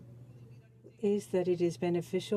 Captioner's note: speaking french